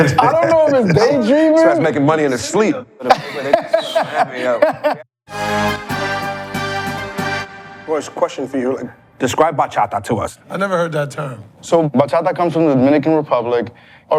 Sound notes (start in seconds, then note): 3.0 laughs; 5.3 energetic hiphop music